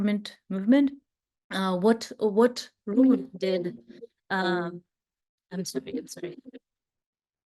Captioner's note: phone ringing